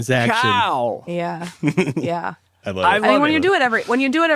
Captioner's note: laughs